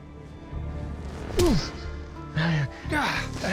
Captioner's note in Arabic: لكمة